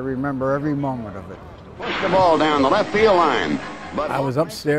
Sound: announcer speaking

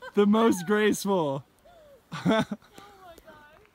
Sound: laughter

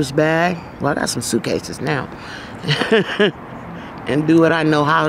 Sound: chuckling

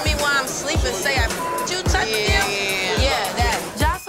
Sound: beep sound

